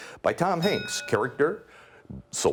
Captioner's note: ding